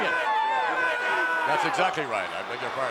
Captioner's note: fans shouting